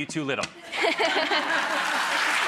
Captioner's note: giggling; audience applauding